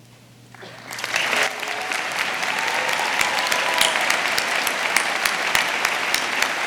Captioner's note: audience applauding; audience cheering